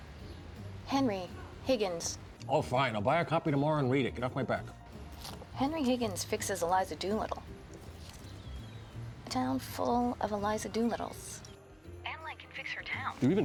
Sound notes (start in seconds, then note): none